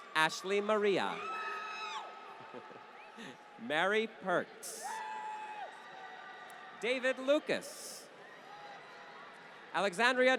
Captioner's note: applause